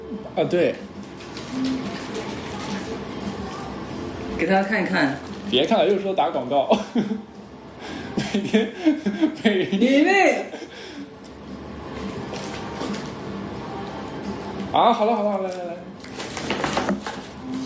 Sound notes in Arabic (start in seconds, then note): 8.2 يضحك